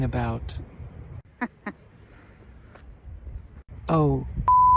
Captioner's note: laughs/chuckles